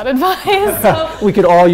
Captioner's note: laughs